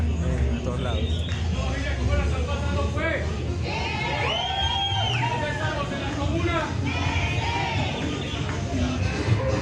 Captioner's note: cheers